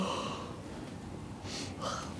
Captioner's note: yawn